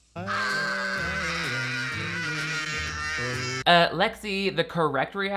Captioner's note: screaming